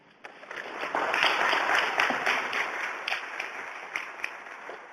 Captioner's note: audience applauds